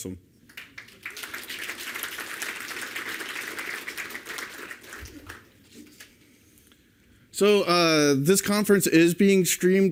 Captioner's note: applause